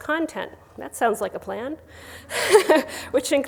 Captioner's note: laughs